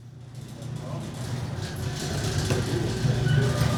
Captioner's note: garage door whirring